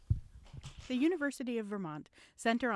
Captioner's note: voiceover